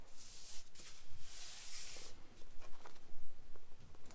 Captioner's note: hands smoothing